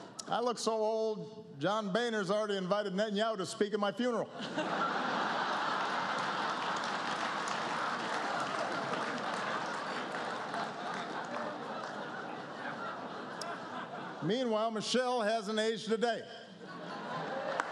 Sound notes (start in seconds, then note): 9.2 laughter; 17.4 applause